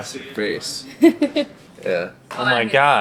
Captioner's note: laughs